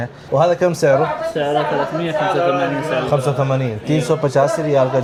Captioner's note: Arabic